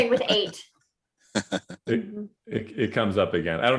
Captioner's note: laughs